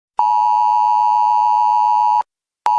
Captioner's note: beeping